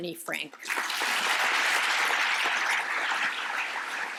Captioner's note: applause